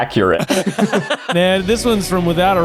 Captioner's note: both laughing